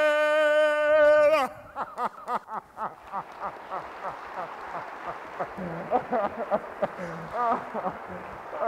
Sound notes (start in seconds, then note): 1.7 Frederick chuckling; 2.5 audience applauding